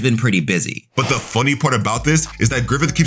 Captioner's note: fire whooshing